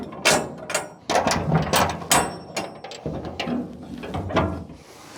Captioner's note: metal Clanking